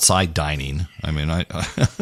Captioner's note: laugh